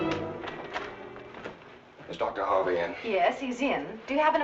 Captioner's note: door rattling